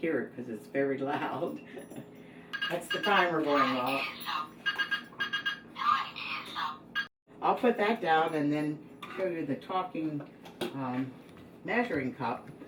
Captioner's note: timer beeper sound